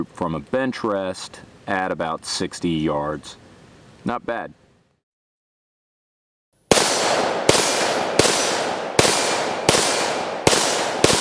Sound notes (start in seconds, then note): 6.6 gun fires